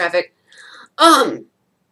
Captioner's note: dramatic sigh